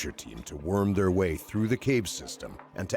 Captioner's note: voiceover